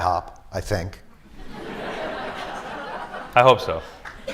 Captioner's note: laughter